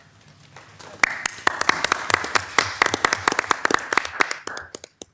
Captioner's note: audience applauding